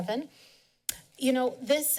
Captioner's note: tongue clicks